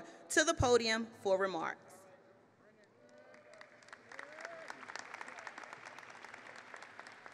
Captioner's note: applause